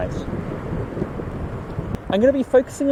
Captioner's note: thunder rumbling